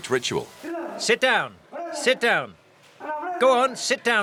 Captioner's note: voiceover